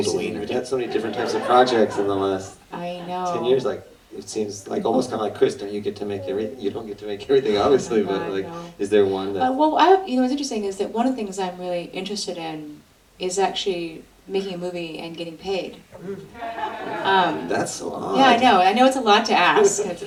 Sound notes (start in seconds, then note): 16.0 audience laughter